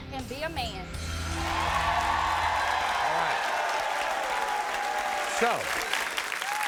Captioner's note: audience cheers